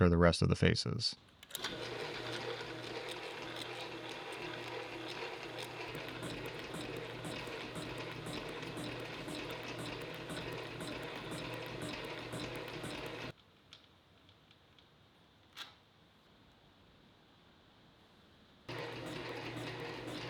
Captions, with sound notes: for the rest of the faces. (machine whirring) (machine whirring continues)